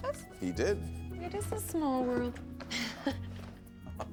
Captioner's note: all chuckling